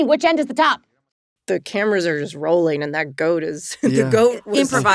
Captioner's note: chuckles